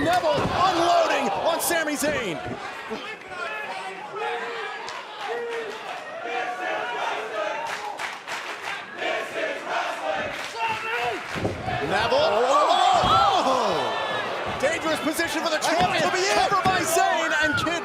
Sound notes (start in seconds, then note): 6.9 fans chanting